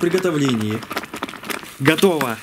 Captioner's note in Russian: бульканье